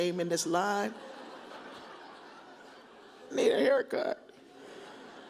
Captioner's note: audience laughs